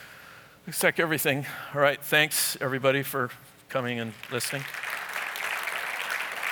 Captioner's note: applause